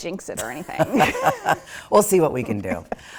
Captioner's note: laughing